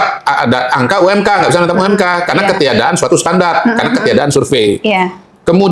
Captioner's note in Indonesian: tertawa